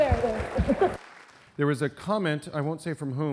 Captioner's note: audience applause; laughter